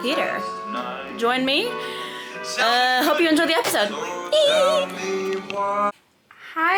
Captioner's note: squeals